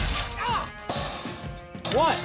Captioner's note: gates clanking